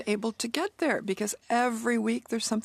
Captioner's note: speaking in French